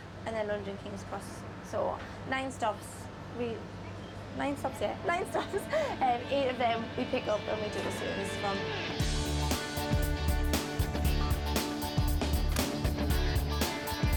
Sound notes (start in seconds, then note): 5.2 laughs; 9.3 vibrant music